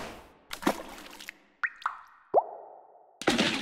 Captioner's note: splashing